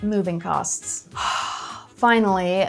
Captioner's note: sighs